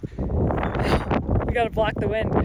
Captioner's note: wind whirring